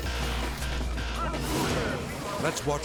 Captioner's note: graphics whooshing